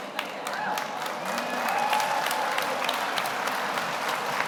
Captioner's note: audience applauds